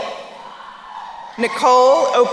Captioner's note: crowd cheering